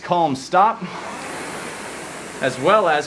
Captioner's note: rowing machine whirring